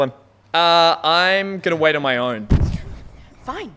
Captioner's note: pants on mic